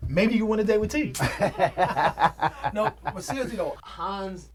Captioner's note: Dre chuckles